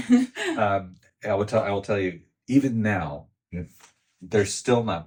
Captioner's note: both laughing